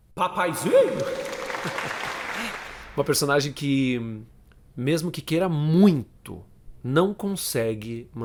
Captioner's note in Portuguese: som de palmas